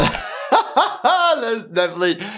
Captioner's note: laughter; beep